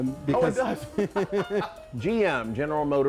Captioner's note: laughing